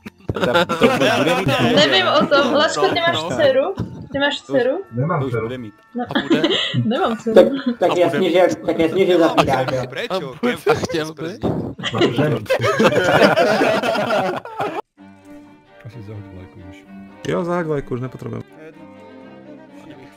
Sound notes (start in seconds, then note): 0.1 laughter; 11.8 laughter; 12.2 confused